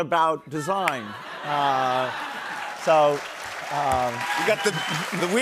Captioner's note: laughter